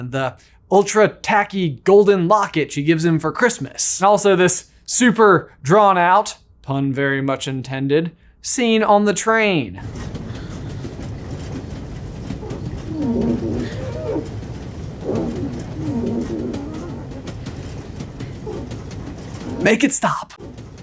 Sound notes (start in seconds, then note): 12.8 squeaking